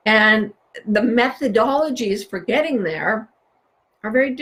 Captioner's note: none